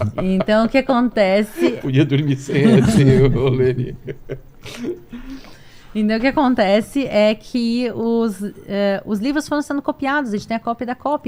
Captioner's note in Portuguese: risadas